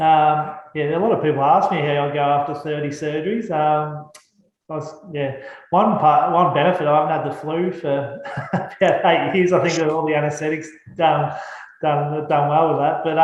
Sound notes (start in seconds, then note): 7.3 laughs